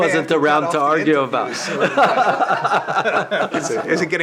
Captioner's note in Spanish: risas